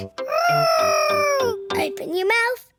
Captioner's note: imitating aeroplane